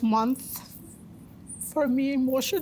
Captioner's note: voice breaking